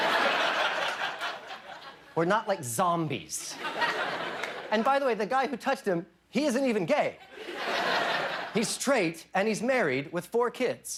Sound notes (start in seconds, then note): 0.0 laughter